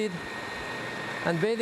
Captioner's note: food processor whirring